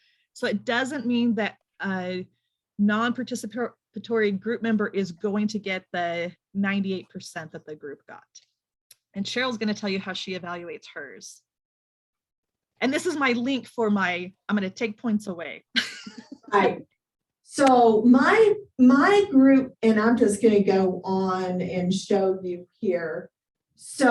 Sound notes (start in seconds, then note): 15.8 laughs